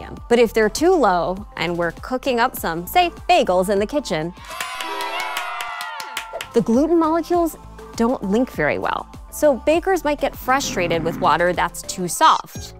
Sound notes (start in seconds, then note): 4.4 cheering